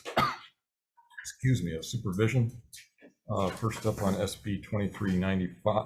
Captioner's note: coughing